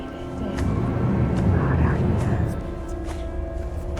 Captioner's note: loud whispered Celtic voices